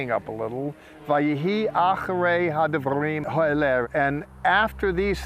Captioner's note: speaking in Hebrew